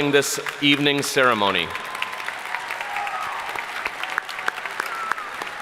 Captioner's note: audience applauding